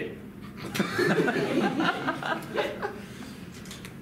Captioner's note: laughter